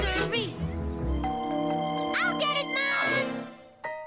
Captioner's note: doorbell